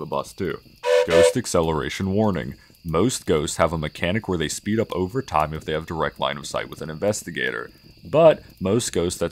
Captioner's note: train whistle again